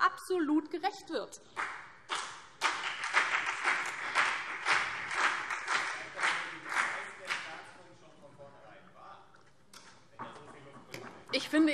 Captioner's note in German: Vereinzelter Beifall